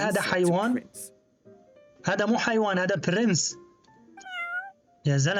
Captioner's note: meow